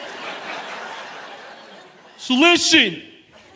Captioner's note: audience laughing